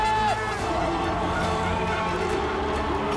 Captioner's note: crowd cheering